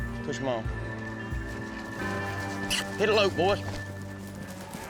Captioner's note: kiss sound; cattle moo